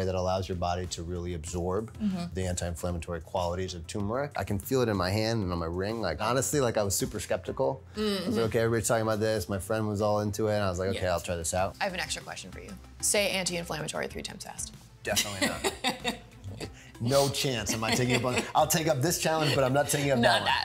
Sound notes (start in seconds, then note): 15.1 laughing